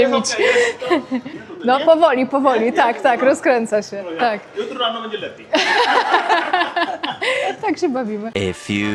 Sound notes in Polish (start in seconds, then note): 5.5 śmiech